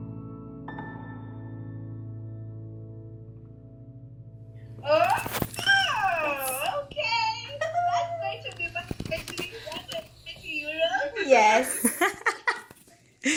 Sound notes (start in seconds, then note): 7.6 indistinct chatter